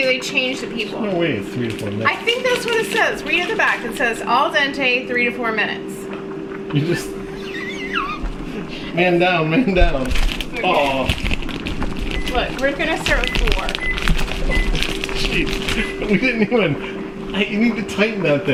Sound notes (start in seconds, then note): 7.9 laughter